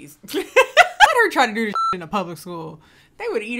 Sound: laughing; beep

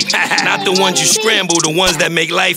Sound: haha

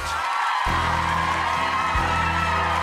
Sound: crowd cheering; jazz music; mellow music

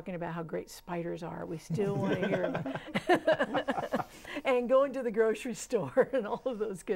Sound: laughing

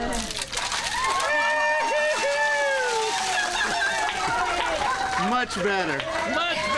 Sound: cheering

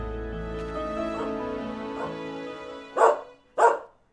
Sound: dog barking

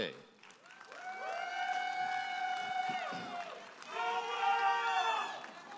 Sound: audience applauding and cheering

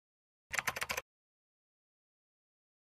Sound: keyboard clacking

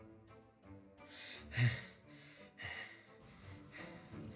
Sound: heavy breathing

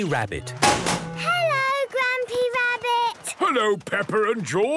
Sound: chrashing

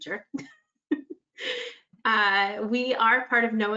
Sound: laughs

